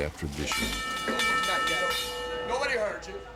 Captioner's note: New York Stock Exchange opening bell